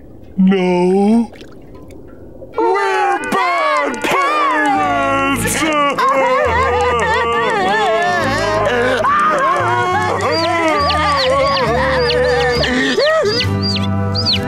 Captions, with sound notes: No. [crying] We're bad parents! [crying] [chirping, crying] [chirping]